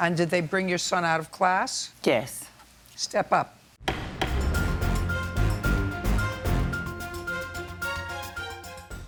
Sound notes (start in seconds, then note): 3.8 gavel bangs; 3.8 dramatic music